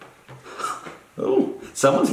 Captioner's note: laughs